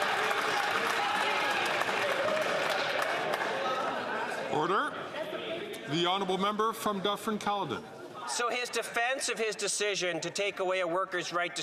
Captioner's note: some Applause